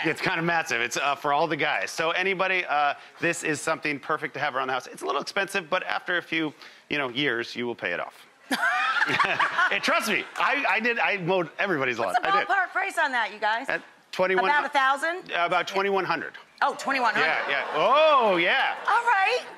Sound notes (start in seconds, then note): 8.4 laughing; 8.6 audience laughing; 17.1 audience oohing and laughing